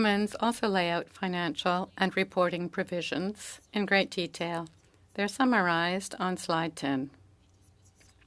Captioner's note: speaking French